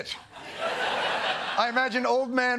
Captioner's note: laughter